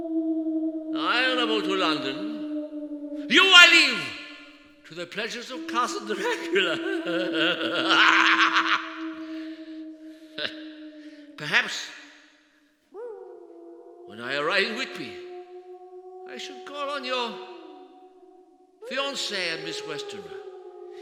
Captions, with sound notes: I travel to London. You, I leave to the pleasures of Castle Dracula. [Maniacal laughing.] Perhaps, when I arrive in Whitby, I should call on your fiance and Miss Westenra.